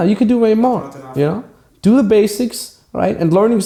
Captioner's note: client murmurs